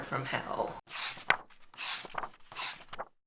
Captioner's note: pages turning